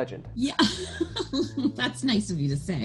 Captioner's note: laughs